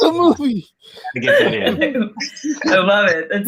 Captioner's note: laughing